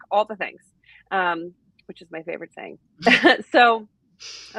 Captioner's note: chuckles